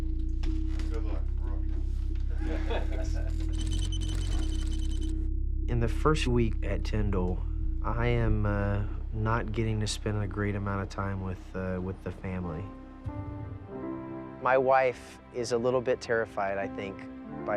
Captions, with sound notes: (men speaking faintly) (men laughing) (rapid beeping) - In the first week at Tyndall, I am not getting to spend a great amount of time with the family. My wife is a little bit terrified, I think,